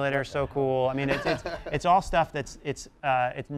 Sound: laugh

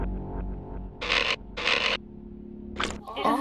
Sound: scratching noise

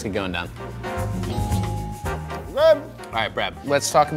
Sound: upbeat music; bell dings

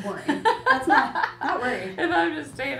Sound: laughs

